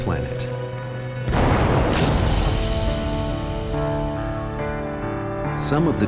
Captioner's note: loud explosion